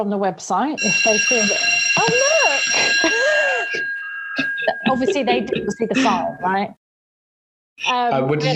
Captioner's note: alarm bell sounds